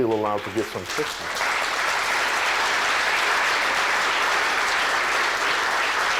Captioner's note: applause